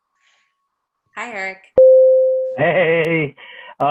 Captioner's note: bell rings